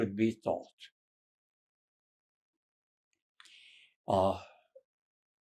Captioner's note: pauses 13 seconds